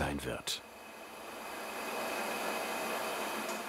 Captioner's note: even whirring